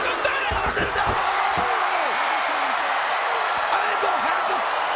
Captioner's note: crowd cheering